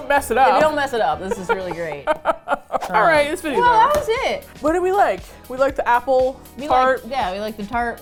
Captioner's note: laughs